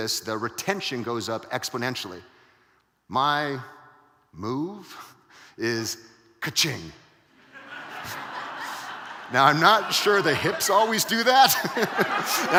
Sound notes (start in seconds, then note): 4.2 laughing; 7.4 audience laughing; 12.0 laughs